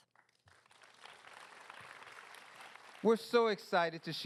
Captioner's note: applause